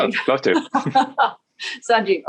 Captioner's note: laughing